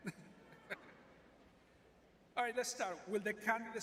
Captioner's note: laughs